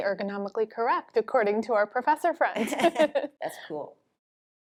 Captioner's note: both laugh